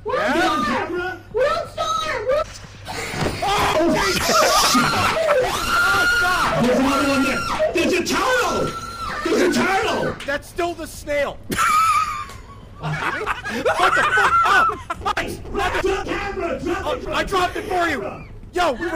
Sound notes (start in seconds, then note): 3.4 everyone screams; 6.6 screams; 11.5 laughs